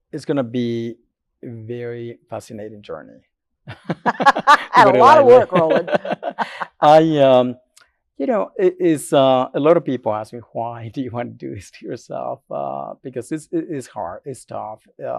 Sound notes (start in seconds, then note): 3.6 laughs